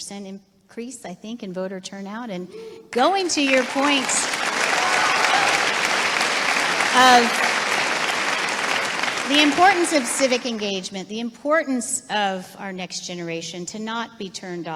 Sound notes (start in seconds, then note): 4.8 applause